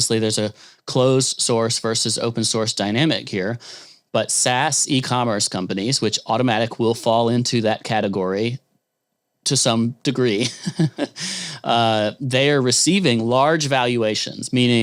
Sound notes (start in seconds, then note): 10.4 chuckles